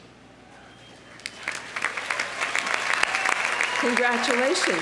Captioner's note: audience applauding